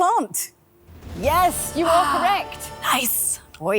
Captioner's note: gasps